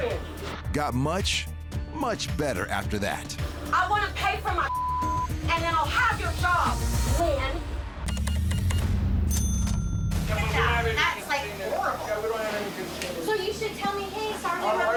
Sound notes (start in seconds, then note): 8.0 beeping; 9.2 cash register dings